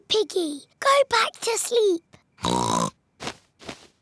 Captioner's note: oinks